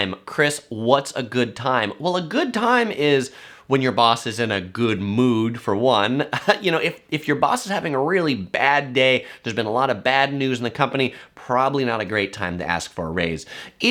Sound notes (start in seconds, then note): 6.3 laughing